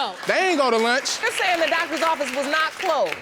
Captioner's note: clapping